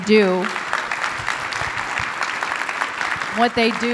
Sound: clapping

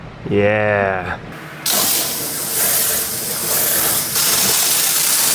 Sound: machine cutting

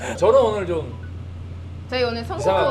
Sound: ahem

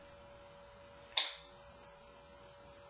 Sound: click sound

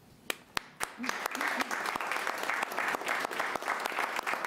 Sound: all applauding

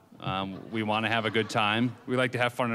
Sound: audience laughing

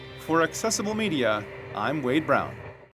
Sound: voiceover

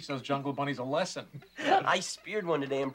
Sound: chuckling

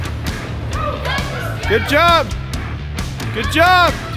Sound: viewers cheering her on

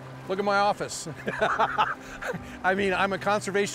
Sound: laughter

